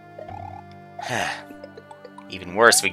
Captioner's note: sigh